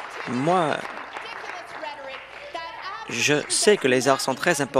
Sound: applause

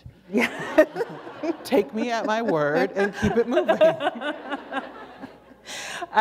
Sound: laughter

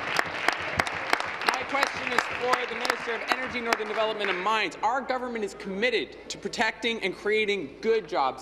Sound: applause

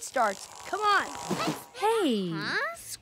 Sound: sighs

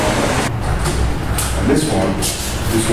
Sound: door opens

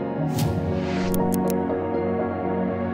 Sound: mouse clicking

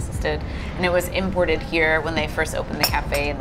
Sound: cup clacking

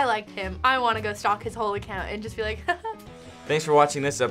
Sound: chuckles

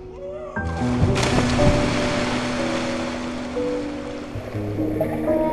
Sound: splashing; gentle orchestral music

